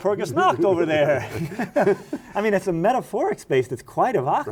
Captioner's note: both laughing